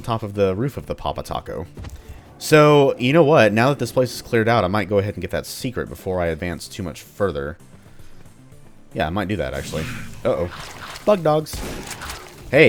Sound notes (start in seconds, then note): 9.6 snarl; 11.4 shotgun blasting